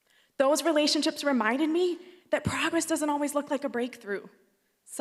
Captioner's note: none